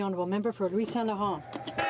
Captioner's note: speaking French